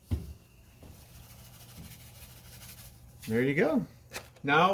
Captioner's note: shaking salt